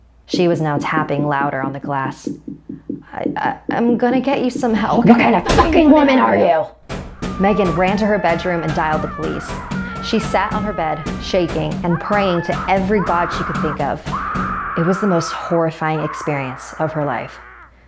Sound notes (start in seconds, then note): 7.2 woman wailing